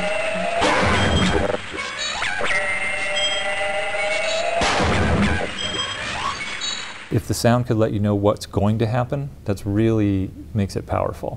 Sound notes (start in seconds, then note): 0.6 gunshots; 2.0 machine whirring